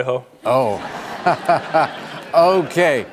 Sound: laughing

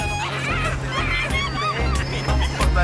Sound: laughs

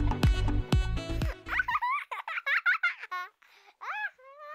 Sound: laughter

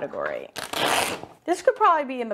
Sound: paper ripping

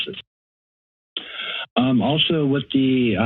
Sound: inhales

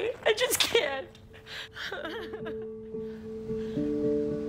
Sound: crying

